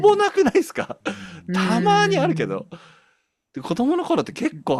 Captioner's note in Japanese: 笑い